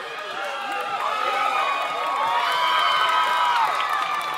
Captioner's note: audience cheering